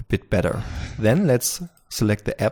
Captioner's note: whoosh